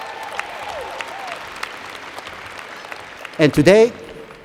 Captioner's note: applause